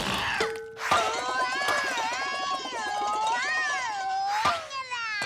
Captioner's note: Captain Flamingo yells